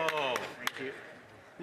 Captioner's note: some Applause